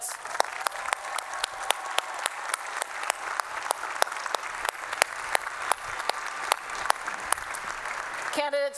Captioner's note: applause